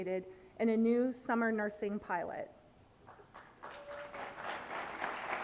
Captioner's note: applause